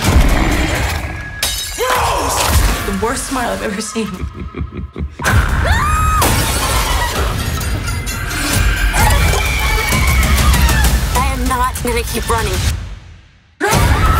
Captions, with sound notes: Rose! The worst smile I’ve ever seen. [sinister laughing] I am not going to keep running.